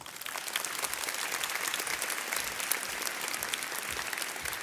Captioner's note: audience clapping